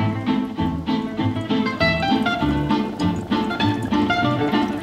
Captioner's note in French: ronronnements